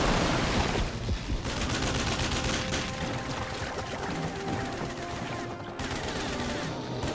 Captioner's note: water rumbling; rapid gunshots popping; rapid gunfire popping; suspenseful music